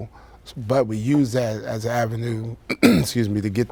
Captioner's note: clears throat